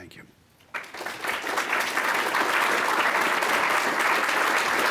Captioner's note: audience applauds